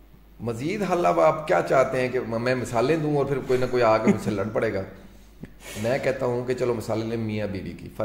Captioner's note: laughter